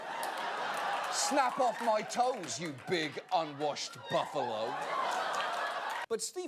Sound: audience laughter

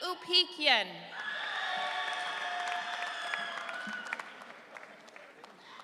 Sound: audience cheering

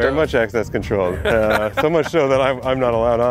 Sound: laughs

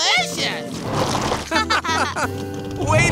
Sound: laughing

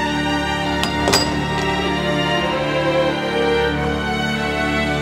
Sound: door shuts

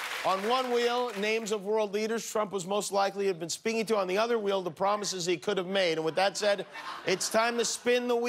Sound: cheers and applause

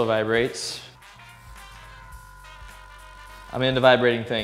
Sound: roller buzzing

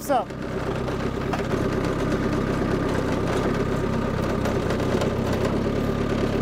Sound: motor continues rumbling

